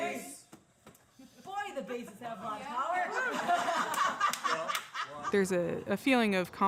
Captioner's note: laughing